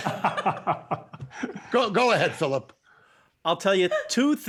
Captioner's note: laughter